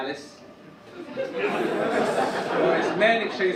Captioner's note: audience laugh